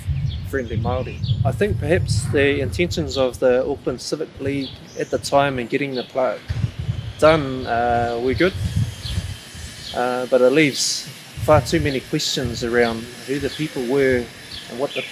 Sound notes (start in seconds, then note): 7.0 lots of construction noise in background at Old Choral Hall!